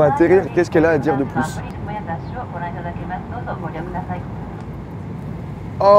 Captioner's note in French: annonce dans l'avion continue